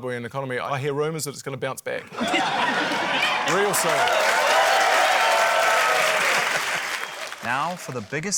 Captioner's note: laughter, cheering, applause